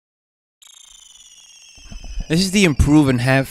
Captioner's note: digital twinkle